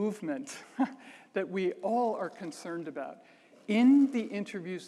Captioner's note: chuckles